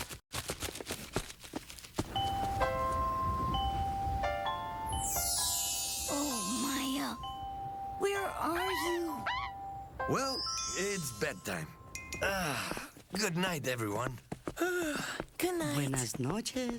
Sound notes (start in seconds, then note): 12.2 sigh; 14.6 yawn